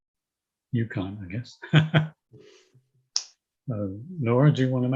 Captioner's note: laughing